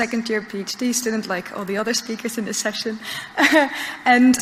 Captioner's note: laughs